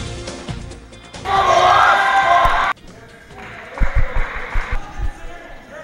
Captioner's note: cheering